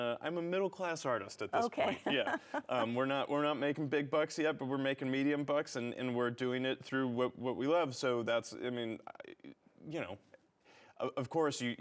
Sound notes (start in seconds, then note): 2.3 laughing